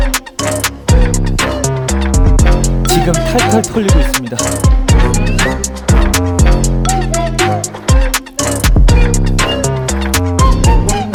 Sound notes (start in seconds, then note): 8.5 laugh